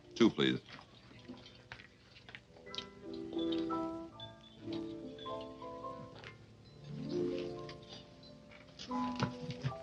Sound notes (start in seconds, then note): 2.0 people chattering faintly; 2.0 soft orchestral music